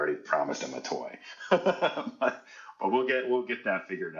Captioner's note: laughing